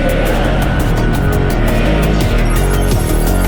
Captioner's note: crowd; dramatic music